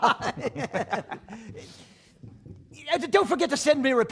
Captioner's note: laughter